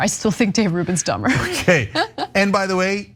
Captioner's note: laugh